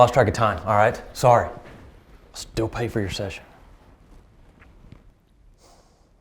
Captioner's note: sighs